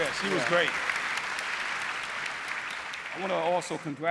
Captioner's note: applause